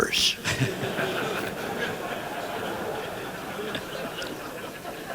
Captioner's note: laughter